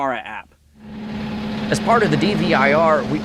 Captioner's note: truck engine revving